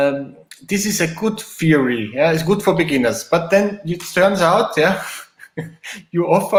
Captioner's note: giggles